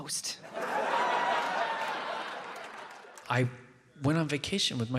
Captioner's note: audience cheers and claps